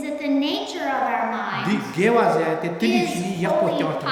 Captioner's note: speaking tibetan